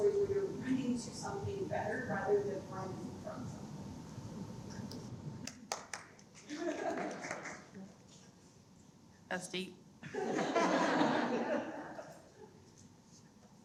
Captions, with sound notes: where you're running to something better rather than finding from something? (Audience Member 1 giggles) - That's deep. (everyone laughs)